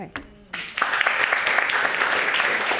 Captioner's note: audience applauding